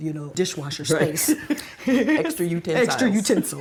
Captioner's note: both laugh